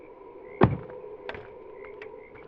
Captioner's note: door slams